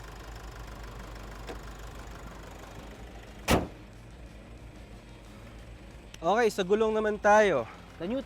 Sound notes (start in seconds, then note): 3.4 hood closes